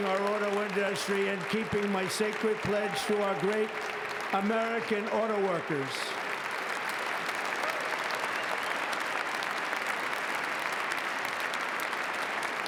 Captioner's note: applause